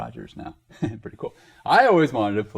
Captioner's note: laughs